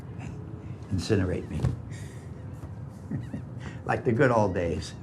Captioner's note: sighs; laughing